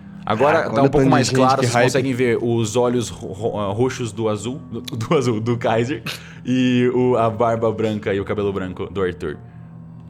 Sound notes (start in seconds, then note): 5.9 laughing